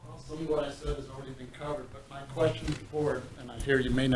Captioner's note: speaking off microphone